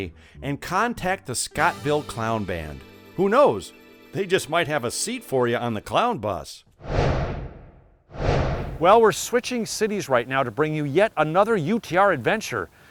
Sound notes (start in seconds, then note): 8.1 swooshing